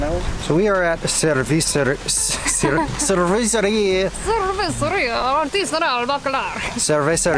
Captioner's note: struggling to pronounce "cerveceria"